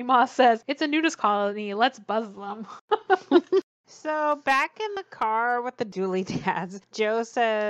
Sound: laughs

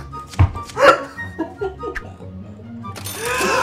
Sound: both giggling

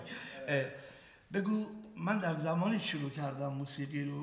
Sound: speaking in farsi

